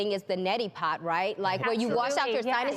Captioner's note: murmuring agreement